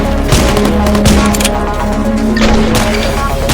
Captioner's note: gun clicks; guns firing